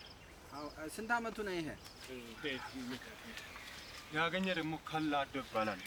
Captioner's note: man speaks in foreign language